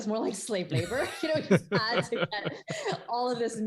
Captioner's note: laughing